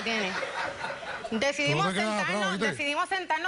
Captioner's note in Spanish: risas